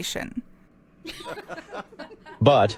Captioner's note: scattered laughter